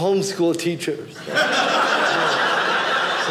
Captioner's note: audience laughing